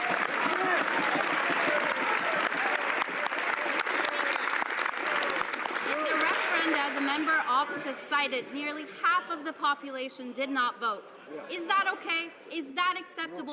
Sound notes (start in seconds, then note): 4.0 some Applause